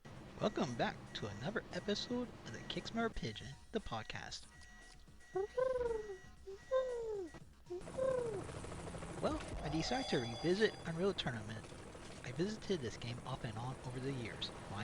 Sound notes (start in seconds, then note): 4.8 echoing Pigeon Cooing Sounds